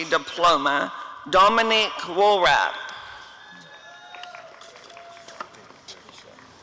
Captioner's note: applause and cheering